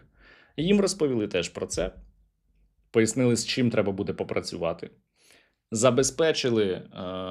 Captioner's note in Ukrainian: сопіння